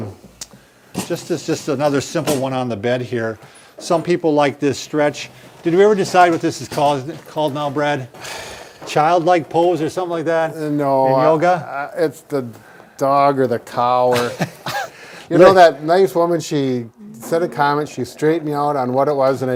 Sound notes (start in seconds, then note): 14.0 laughs